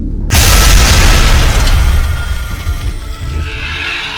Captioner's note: ground crashes; beast shrieks